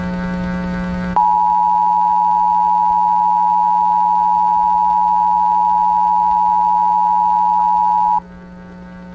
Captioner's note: EAS attention signal